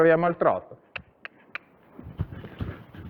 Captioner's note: cluck